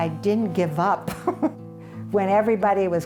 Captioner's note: laughs